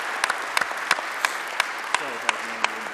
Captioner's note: audience clapping